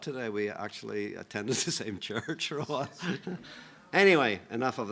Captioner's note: laughs